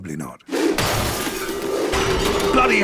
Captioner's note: Heart Eating Kemp moaning